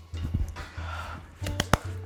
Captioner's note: cook exhales; hands clap